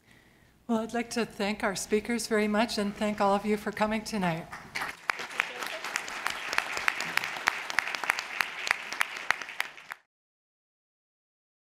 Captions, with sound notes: Well, I'd like to thank our speakers very much and thank all of you for coming tonight. [clapping]